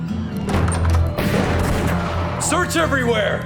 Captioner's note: gunfire pops